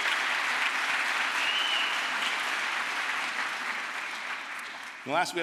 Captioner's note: crowd applause